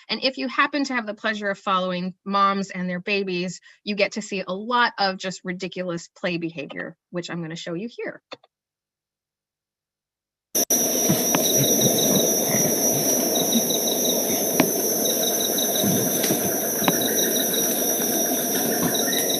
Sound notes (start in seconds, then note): 10.5 forest sounds